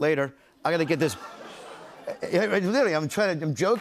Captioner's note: laughter